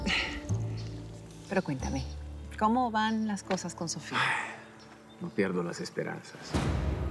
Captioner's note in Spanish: exhala